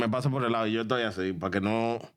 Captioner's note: speaking In Foreign Language